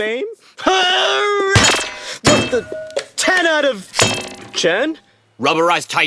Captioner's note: sound of Albert hurling a laptop, but when it hits the floor, it merely thuds; hurls again, metal on metal